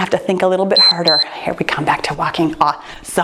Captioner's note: timer beeps